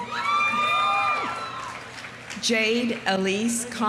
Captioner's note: audience cheering; audience applauding